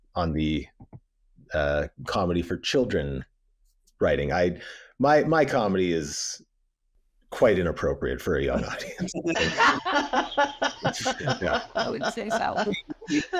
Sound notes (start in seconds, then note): 8.4 laughs